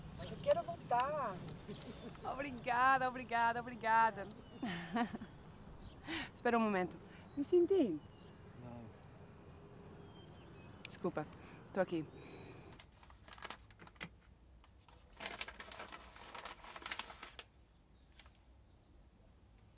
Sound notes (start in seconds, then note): 0.2 Lara speaking in Brazilian Portuguese; 4.2 Lara laughs; 10.7 speaks Brazilian Portuguese